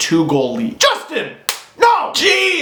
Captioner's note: chippy slap